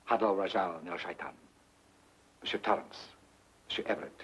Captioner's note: speaks foreign language